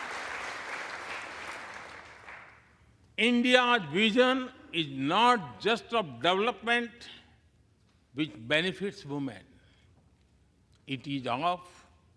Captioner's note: applause